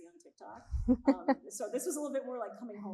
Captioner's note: laughing